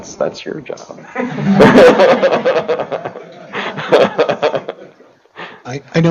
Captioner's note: laughter